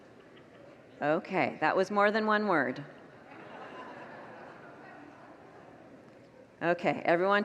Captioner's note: congregants laugh